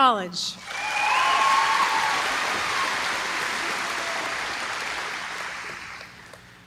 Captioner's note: applause